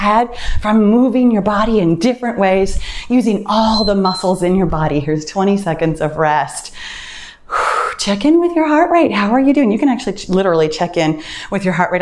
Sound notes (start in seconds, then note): 3.5 timer beeps; 6.7 exhales